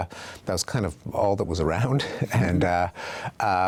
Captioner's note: chuckles